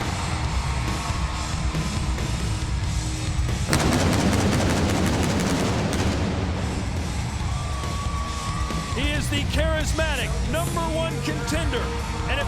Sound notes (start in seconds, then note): 0.0 audience cheering and clapping; 3.7 pyro blasting